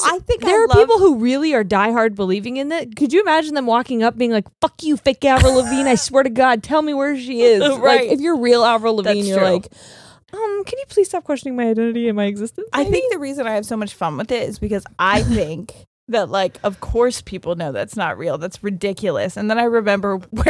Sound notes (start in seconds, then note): 5.4 chuckles